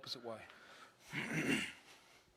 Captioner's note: clears throat